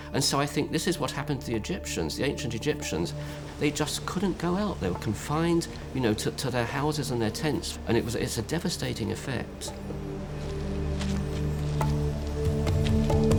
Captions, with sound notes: And so I think this is what happened to Egyptians, the ancient Egyptians. They just couldn't go out, they were confined, you know, to their houses and their tents. And it's a devastating effect. [chimes] [soft drumming]